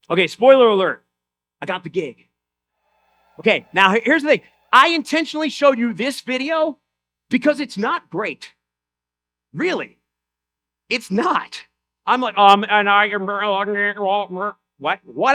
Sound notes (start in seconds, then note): 2.8 audience cheers; 13.6 speaks gibberish